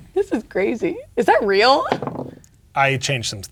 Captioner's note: dice rolling